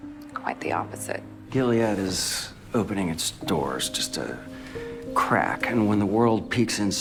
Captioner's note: voiceover